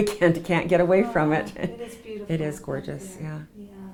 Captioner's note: laughs